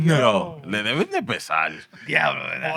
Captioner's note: non-english Speech